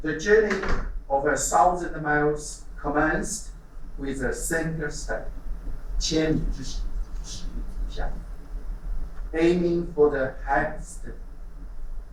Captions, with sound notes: "The journey of 1000 miles commenced with a single step." (speaking in Chinese)